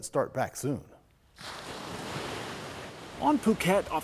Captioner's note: waves crashing